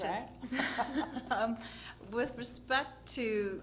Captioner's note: laughing